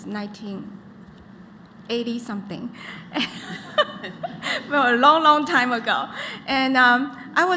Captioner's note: laughter